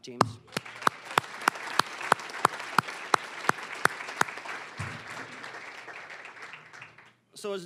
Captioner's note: applause